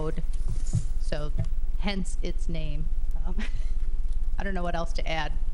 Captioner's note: laughs